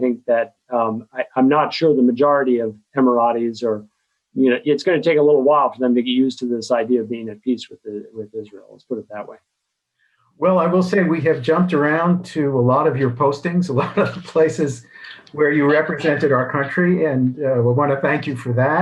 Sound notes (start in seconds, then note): 13.0 both laugh